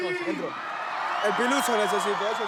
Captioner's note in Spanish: Silbidos